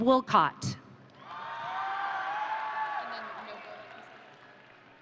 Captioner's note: audience cheering